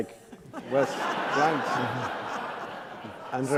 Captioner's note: laughs